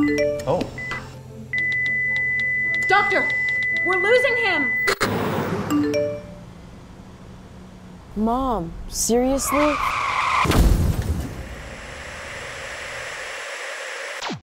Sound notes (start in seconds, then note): 1.5 heart monitor alarm sounds; 1.6 text message alert sounds; 9.2 screeching tires, sound of impact